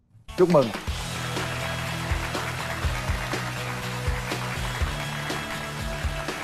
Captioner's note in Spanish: Aplaudir